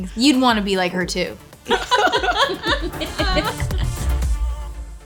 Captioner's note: laughter